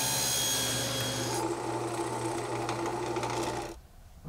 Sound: drill whirring

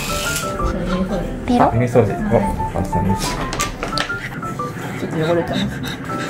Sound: ear cleaning

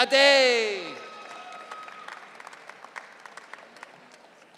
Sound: audience cheering

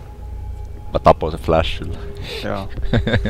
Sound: laughing; chuckle

